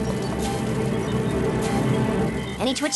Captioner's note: bubbling